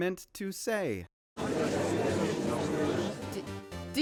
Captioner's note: crowd murmurs